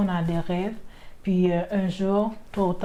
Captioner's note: speaking foreign language